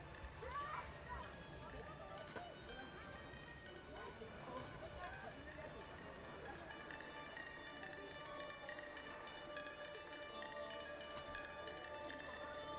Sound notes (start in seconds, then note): 3.1 cicadas buzzing; 7.0 mysterious music